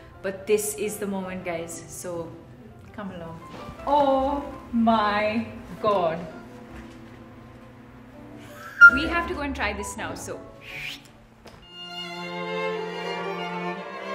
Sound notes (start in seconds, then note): 11.1 whistles; 11.7 wistful orchestral music